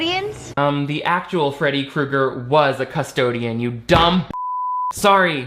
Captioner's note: beep